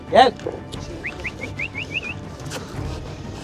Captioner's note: whistle